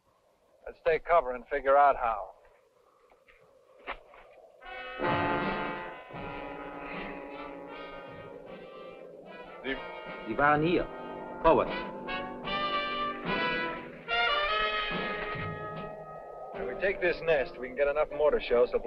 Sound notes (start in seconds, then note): 4.8 dramatic instrumental music; 10.3 speaking in a foreign language